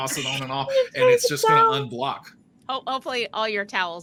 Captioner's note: laughing